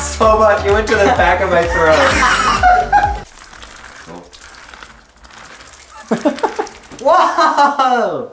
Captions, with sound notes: - So much, it went to the back of my throat. (beads rolling) - Whoa!